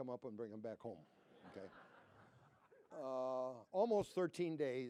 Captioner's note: laughter